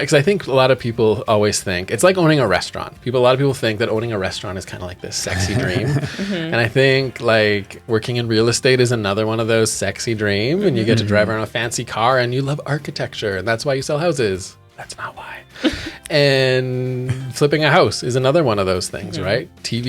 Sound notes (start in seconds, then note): 5.2 laughing